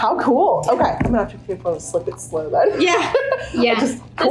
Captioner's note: chuckles